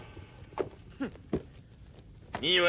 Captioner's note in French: rire